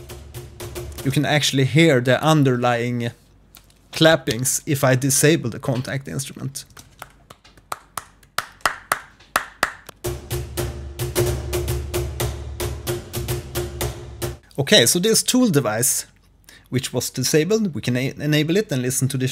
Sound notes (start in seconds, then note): 8.5 clappings